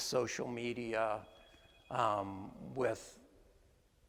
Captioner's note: cell phone ringing